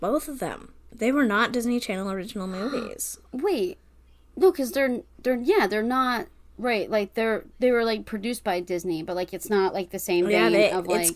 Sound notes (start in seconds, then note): 3.4 gasp; 4.7 stammering